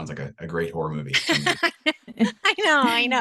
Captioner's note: laughs